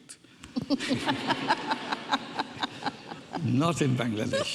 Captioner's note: audience laughing